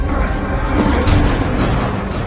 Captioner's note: gunshot